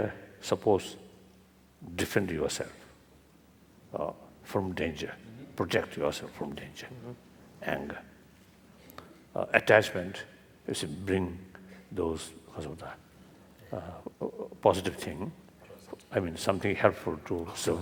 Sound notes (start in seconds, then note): 11.7 foreign language